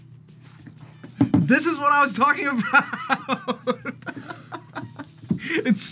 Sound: laughs

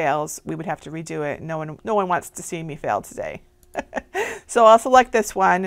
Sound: laughs

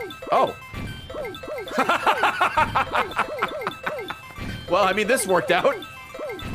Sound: laughs

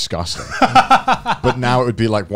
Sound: chuckling

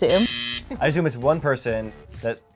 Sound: buzzes

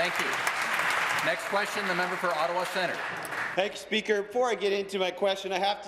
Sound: applause

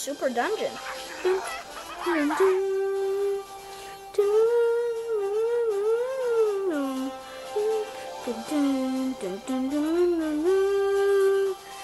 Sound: continues humming super awesome tune

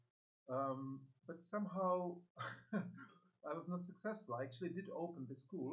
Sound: laughs

